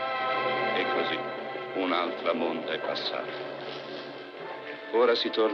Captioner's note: man speaking Italian